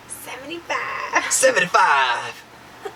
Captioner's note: in funny voice: 75!; laughing